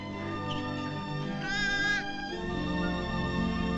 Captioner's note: mewling